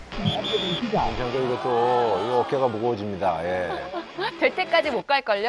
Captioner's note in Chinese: 笛声